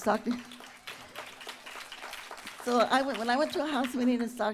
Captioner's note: applause